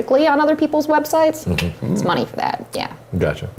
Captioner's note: clicks tongue